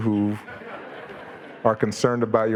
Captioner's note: audience laughing